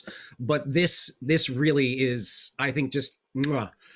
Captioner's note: smacks lips